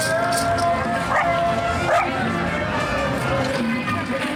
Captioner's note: dog barks